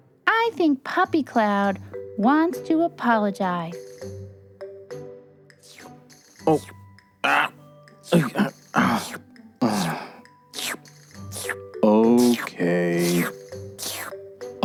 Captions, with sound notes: I think Puppy Cloud wants to apologize. [slurping] [grunting] [slurping] Okay.